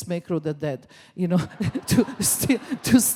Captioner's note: laughs